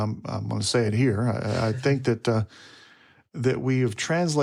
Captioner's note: speaker chuckles